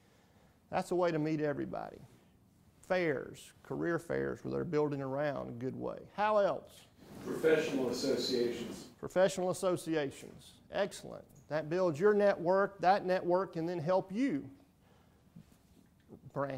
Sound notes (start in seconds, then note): 7.8 voiceover